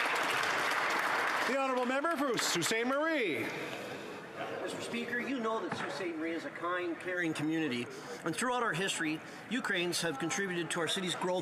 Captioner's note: some Applause